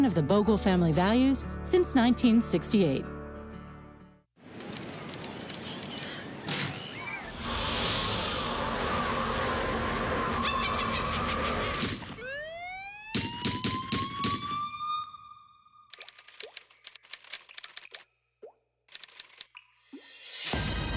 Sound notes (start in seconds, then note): 4.7 waves; 5.9 kids screaming; 8.1 wind; 9.3 witch cackling; 12.3 sirens wail; 13.4 gunshots; 15.7 dripping; 20.0 suspenseful music